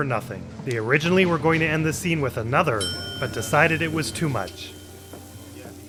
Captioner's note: ding